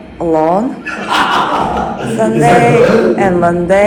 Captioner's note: laugh